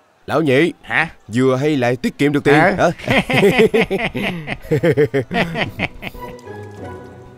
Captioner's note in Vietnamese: Tiếng cười